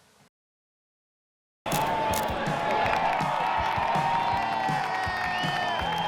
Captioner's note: cheering, applause